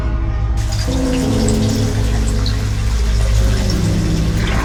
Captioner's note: what can only be described as a big rusty splash; running water